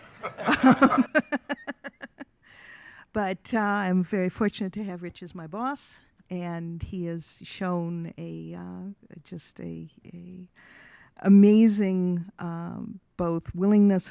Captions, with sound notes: Thank you. [Laughing] But I'm very fortunate to have Rich as my boss, and he has shown a, just a, amazing both willingness